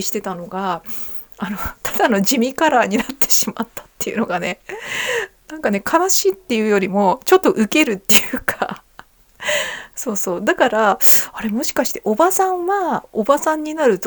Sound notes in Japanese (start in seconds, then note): 4.7 息をのむ音; 5.5 笑い